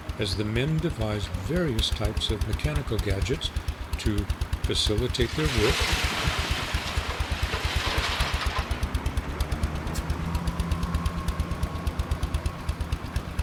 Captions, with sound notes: as the men devised various types of mechanical gadgets to facilitate their work, (small engine operating) (objects clattering)